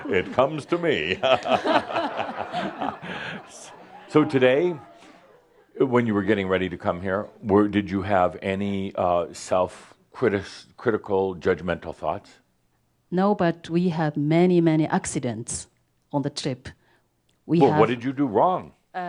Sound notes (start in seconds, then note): 0.0 laughter; 0.0 they laugh